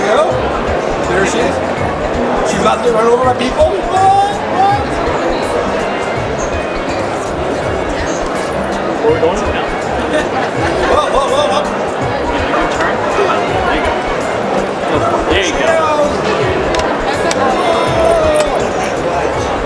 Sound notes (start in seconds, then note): 12.5 crowd talking